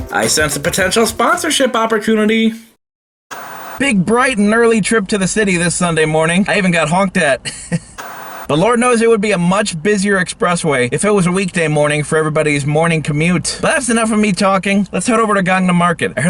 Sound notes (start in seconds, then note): 3.3 TV static; 7.8 TV static